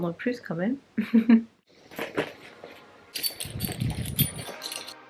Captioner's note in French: rires